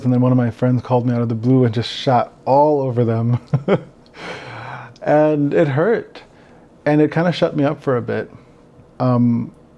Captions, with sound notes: and then one of my friends called me out of the blue and just shat all over them. (laughs) And it hurt. And it kind of shut me up for a bit.